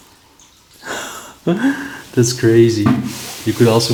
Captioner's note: chuckles